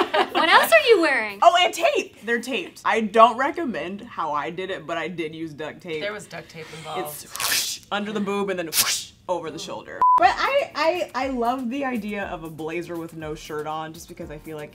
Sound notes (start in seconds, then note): 7.3 ripping; 10.0 beeping